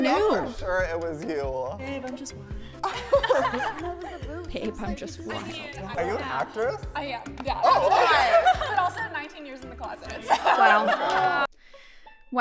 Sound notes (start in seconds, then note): 2.8 laughter; 7.7 laughter